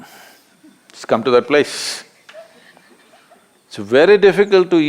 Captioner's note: A participant laughs